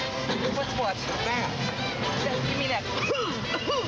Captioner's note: <i> coughs</i>